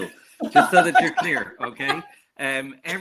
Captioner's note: laughs